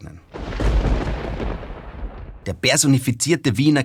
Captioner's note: thunderstorm over Karlskirche